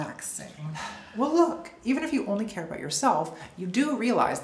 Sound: sighs

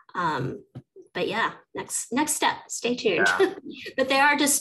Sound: chuckles

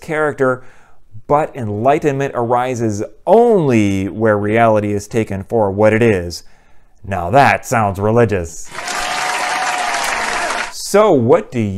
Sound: applause

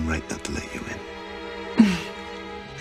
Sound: Meg chuckles

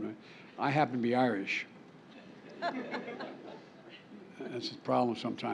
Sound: laughter

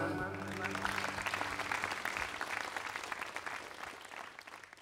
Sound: audience applauding

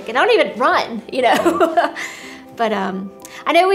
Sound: laughs

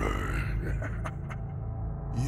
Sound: evil laugh

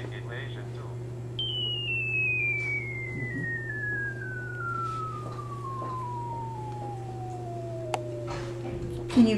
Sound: calculator Sounds

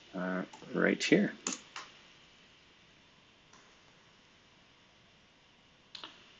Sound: computer keyboard clicking

